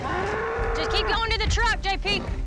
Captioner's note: bull moos wildly